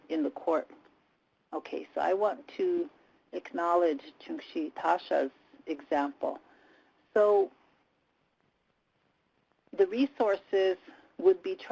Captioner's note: native language spoken